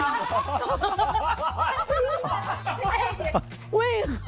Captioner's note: laughs